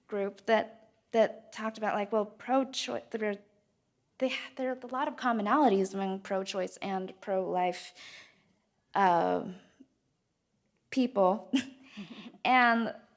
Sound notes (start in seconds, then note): 11.4 speaker chuckles; 11.9 chuckles